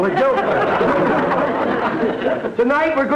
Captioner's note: audience laughter